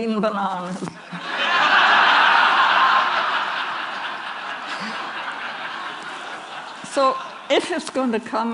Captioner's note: Laughter; 笑聲